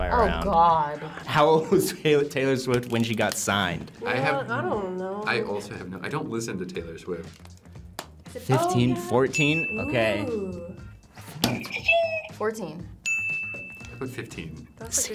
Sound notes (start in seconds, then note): 13.0 bell rings; 13.1 buzzer rings